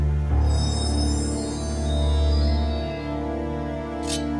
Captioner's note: bells chime; sword clicks